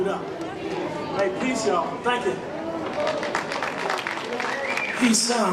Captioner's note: applause